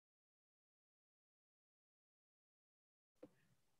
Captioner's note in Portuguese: silêncio